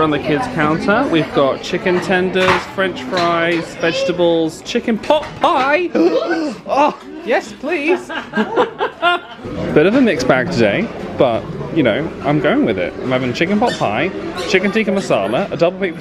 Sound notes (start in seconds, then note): 6.0 gasps; 7.8 both laugh